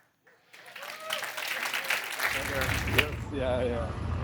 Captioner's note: applause